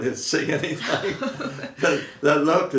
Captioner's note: laughing